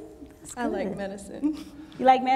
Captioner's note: chuckles